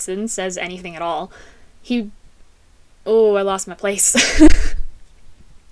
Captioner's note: laughter